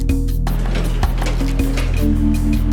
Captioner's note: sliding Door Opening